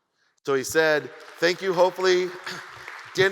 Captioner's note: audience applauds